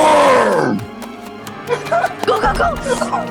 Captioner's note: frantic running from jeff